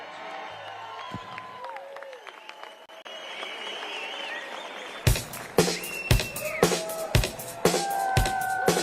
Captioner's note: cheers and applause